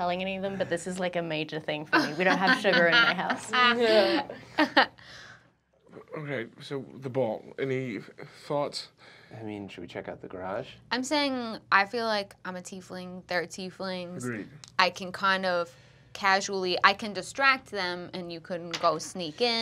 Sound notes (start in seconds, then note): 4.7 laughter